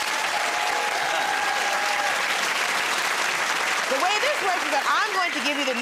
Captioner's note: cheers and applause